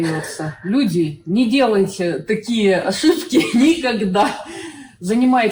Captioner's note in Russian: Смех через душевную боль